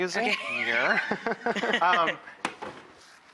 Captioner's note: laughs